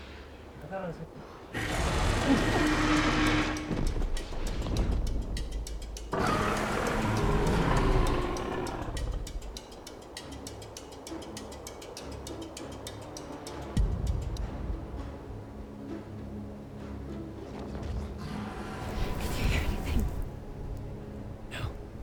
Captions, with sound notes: - Are you scared, I thought... (dragon growls) (dramatic music) - Did you hear anything?